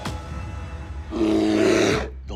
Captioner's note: growl